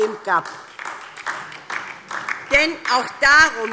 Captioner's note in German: Beifall DIE LINKE und vereinzelt SPD